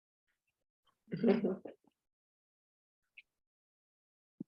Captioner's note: chuckles